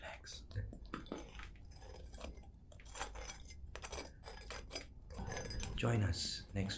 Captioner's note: scraping sounds continue